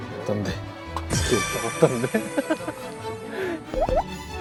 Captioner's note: giggling